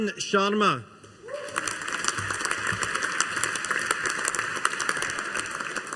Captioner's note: audience applauding